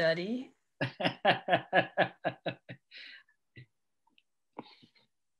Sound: laughing

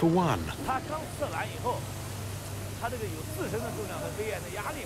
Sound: man speaking Tibetan

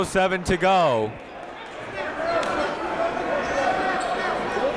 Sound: crowd talking

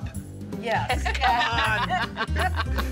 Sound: both laughing

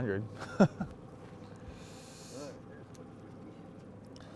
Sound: chuckling

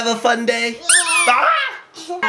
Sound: squeaks; yells

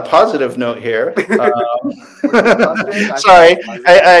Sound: laughing

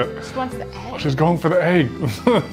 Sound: laughs

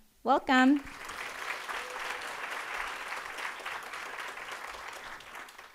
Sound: audience applauding

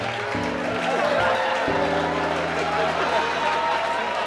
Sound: cheers and applause

